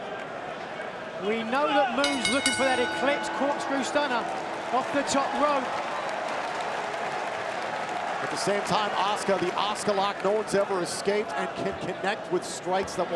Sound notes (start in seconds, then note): 2.0 bell rings